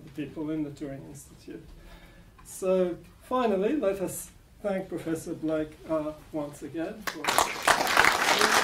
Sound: applause

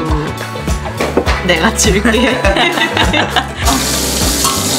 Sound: clap

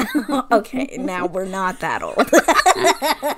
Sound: laughs

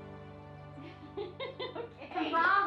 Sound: laughter

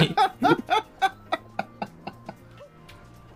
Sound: laugh; giggle

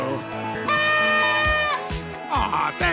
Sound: Perry blows a party horn

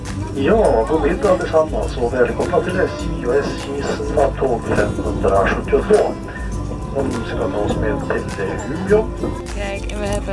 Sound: swedish rambling

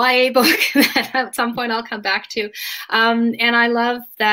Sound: laughs

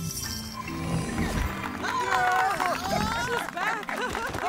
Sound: cheering

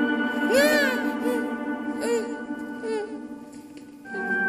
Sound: whimpers

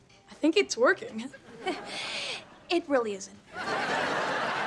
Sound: chuckles

